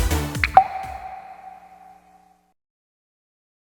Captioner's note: upbeat music; water droplet splashes